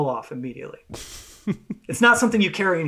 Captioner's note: laughs